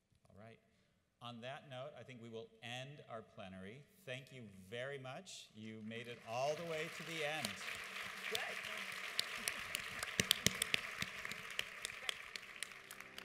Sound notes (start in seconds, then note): 7.5 audience applauds